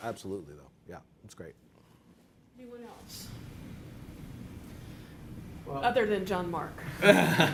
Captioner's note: laughing